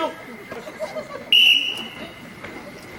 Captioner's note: whistle blows